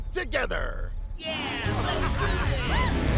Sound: all cheering

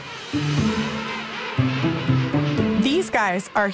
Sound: playful music; penguins squawking

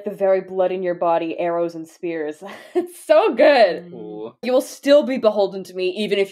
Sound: laughs

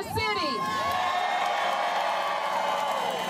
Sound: crowd cheering, clamoring

